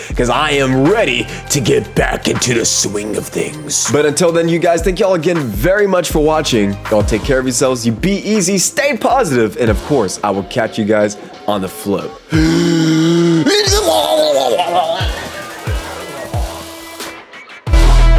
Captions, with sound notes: because I am ready to get back into the swing of things. But until then you guys, thank y'all again very much for watching. Y'all take care of yourselves. You be easy, stay positive. And of course I will catch you guys on the float. (gasping) (upbeat music)